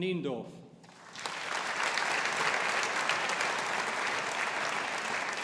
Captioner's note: audience applauding